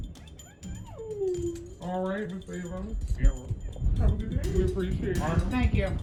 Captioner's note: altered/distorted